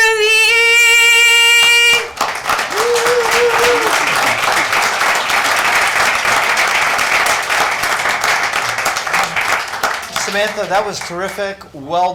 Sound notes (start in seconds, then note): 2.2 crowd clapping; 2.6 person cheering